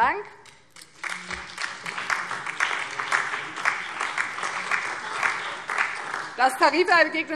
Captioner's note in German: Beifall BÜNDNIS 90/DIE GRÜNEN, CDU, DIE LINKE und vereinzelt SPD